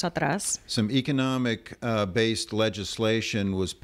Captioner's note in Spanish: Hablando ingl\s